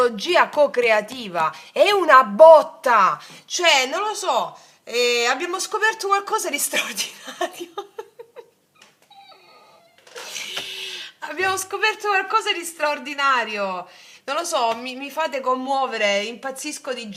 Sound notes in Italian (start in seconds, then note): 10.4 risate